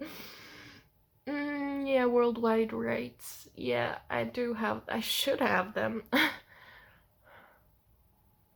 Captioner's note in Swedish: skratt